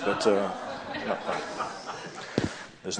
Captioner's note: laughter